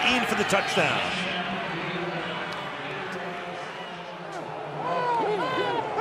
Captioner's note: pa announcement